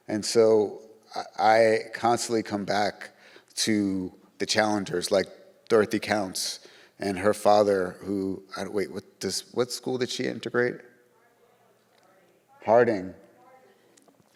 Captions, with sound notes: And so I constantly come back to the challengers, like Dorothy Counts and her father who... Wait, what school did she integrate? (attendees murmuring) Harding.